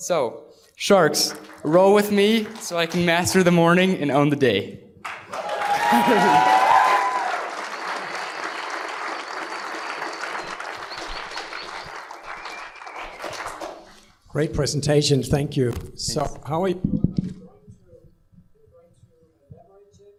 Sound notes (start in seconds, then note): 5.0 applause; 5.8 laughter